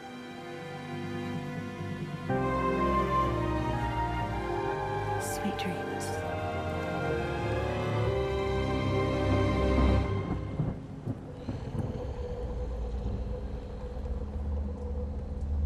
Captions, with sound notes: Sweet dreams. (dramatic music) (thunder rumbling) (Abby snarling)